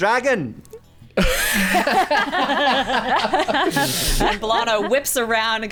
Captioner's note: laughing